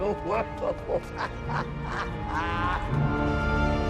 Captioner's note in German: Lachen